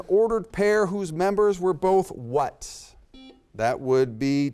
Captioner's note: buzzer beeps